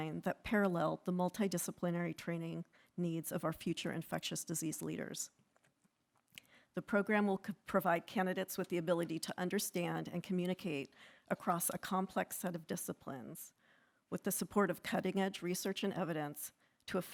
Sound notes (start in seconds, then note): none